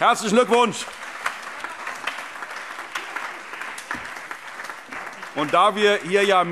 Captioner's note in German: Allgemeiner Beifall